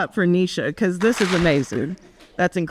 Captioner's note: audience claps